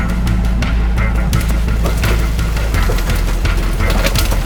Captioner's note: water trickling; vehicle creaking